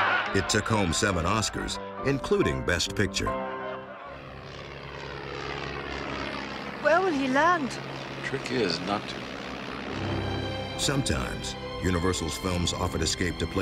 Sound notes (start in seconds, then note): 0.0 men laughing; 4.6 airplane buzzing